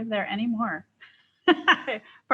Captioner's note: laughs